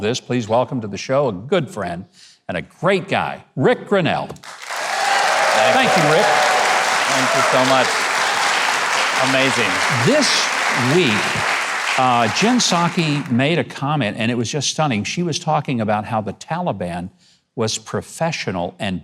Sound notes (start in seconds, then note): 4.3 audience applauding